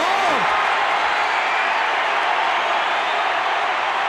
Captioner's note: crowd cheers